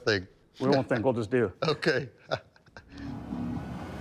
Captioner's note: laughs; laughs